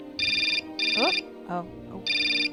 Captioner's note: phone rings